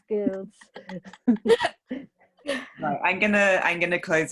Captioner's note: laughs